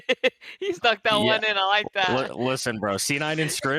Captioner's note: laughs